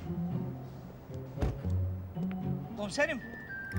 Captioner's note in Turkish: Kapı kapanma sesi